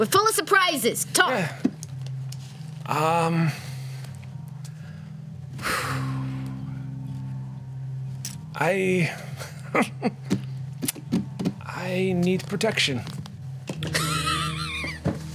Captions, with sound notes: - We're full of surprises, talk. - I (chuckles), I need protection.